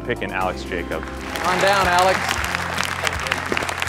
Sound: applause

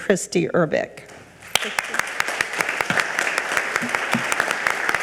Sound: audience applaud

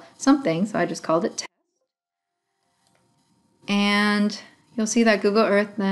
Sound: audio out

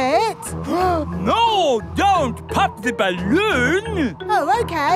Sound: gasps

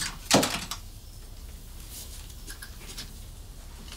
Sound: door opens

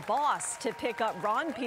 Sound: cheers and applause

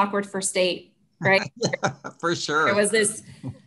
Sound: laughs

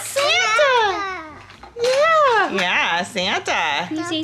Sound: speaking gibberish

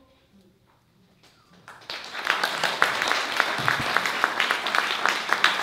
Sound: applause

